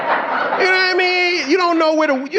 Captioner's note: audience laughing